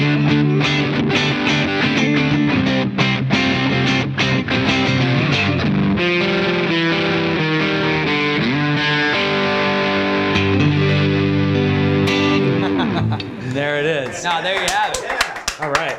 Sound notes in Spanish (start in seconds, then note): 12.4 risas; 14.9 voces y aplausos